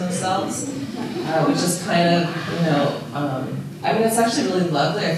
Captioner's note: audience laughing